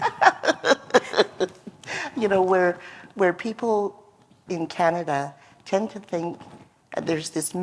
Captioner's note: laughter